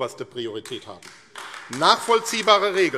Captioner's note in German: Beifall AfD